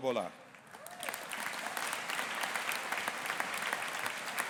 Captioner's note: audience applauding